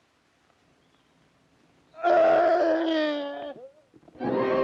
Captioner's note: screams; loud foreboding music